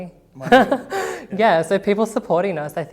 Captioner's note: laughing